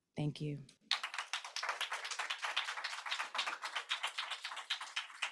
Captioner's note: applause